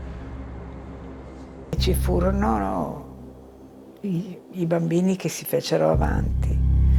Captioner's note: speaking in foreign language